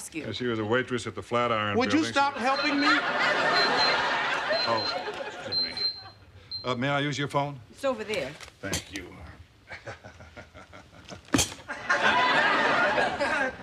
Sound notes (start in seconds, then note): 2.4 pager beeping; 9.7 chuckling